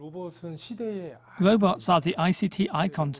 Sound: Korean

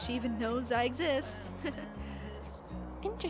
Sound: laughs

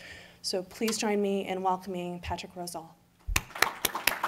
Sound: clapping

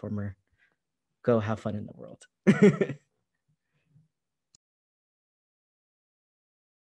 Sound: laughter

